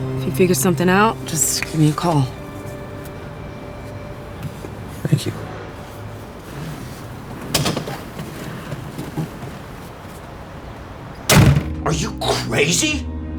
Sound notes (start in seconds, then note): 11.2 car door closes